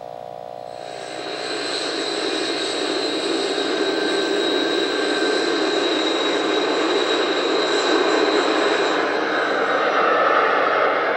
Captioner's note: sound of a T-38 jet taking off